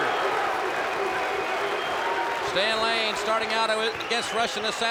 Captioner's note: crowd cheering